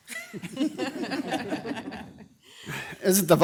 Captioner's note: everyone chuckles